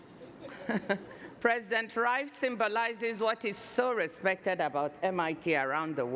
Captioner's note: chuckles